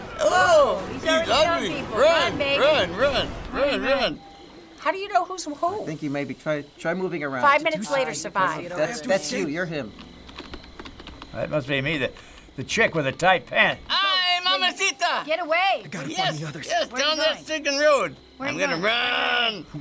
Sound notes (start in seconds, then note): 9.9 crickets chirruping; 10.2 tapping keyboard